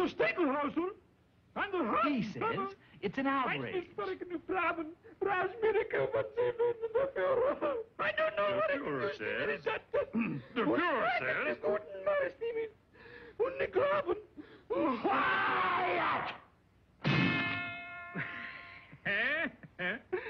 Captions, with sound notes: He says it's an outrage. (Shouting Whiny German) The Führer says - (Clears Throat) The Führer says - QUIET! (Bang) (Giggles)